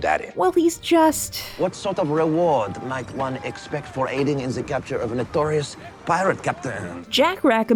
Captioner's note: Jack in a shit French accent